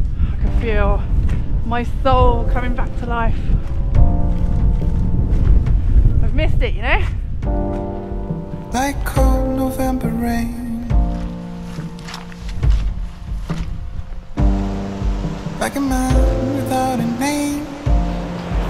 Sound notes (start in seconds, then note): 11.1 squelch, squelch, squelch; 13.8 rushing water